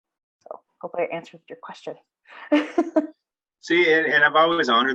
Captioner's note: laughing